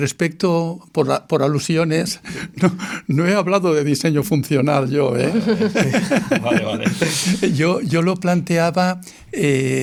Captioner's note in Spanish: risas